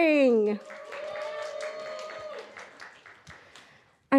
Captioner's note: applause and cheering